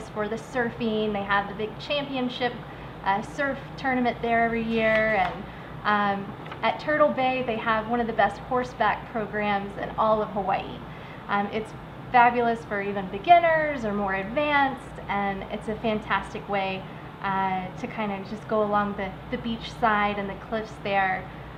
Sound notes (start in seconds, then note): none